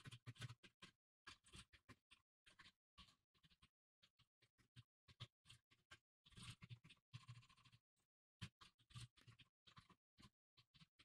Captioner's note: typing sounds